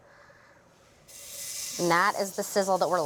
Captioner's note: sizzles